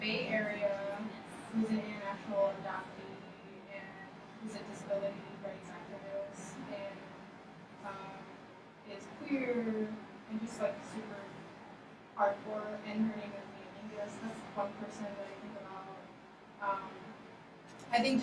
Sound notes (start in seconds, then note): 2.6 speaking softly; 13.4 speaking softly